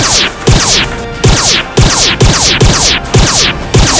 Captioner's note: laser noises--speeding up